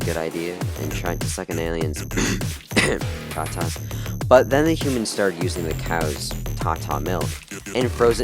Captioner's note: cough cough